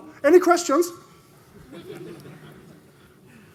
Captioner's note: laughter